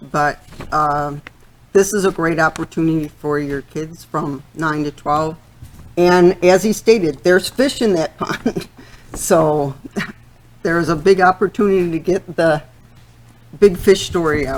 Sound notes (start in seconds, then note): 8.6 laughing